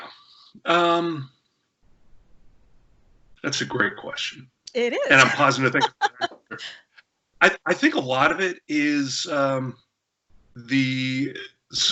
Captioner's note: laughter